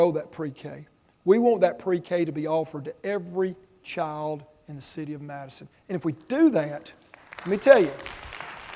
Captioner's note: audience applause